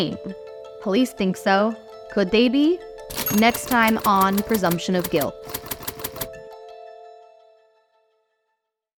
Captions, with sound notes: Police think so. Could they be? (bell ringing) Next time on Presumption of Guilt.